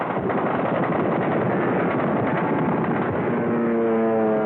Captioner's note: gunfire